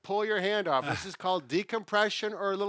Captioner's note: laughs